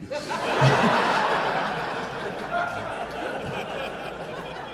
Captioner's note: audience laughing